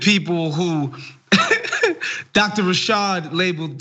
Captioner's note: laugh